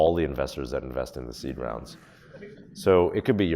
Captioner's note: audience laughs